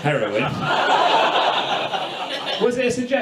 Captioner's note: audience laughs